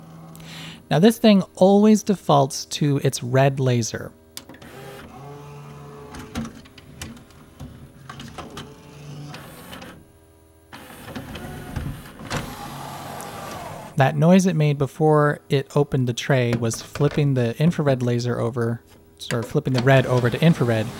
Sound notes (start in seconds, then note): 4.4 pronounced whirring with a sort of crinkly sound in the middle; 10.7 new motor noise again, then prolonged as tray opens